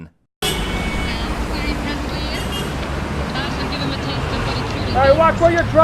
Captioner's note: sounds of traffic